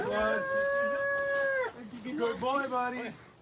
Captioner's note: wails